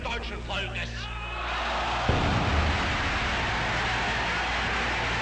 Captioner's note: crowd cheering